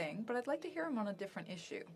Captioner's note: speaking FRENCH